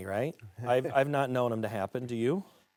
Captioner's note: French